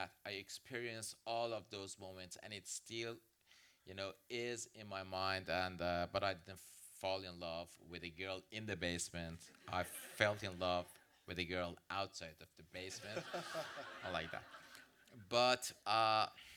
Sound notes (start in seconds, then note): 12.9 audience laughs